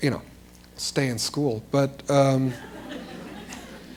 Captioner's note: laughter